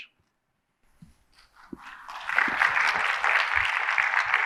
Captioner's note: audience applauds